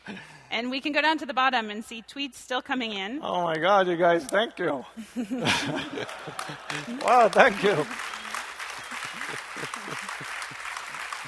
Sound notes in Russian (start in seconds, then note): 0.0 смеется; 5.0 смеется; 7.9 аплодисменты